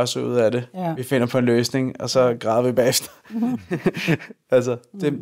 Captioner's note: laughs